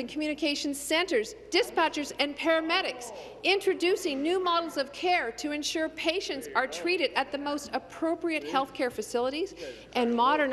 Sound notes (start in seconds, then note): none